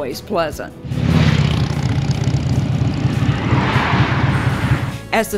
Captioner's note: motorcycle and car engine purring